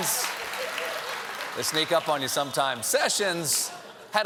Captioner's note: applause; laughter